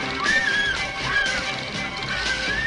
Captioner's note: screaming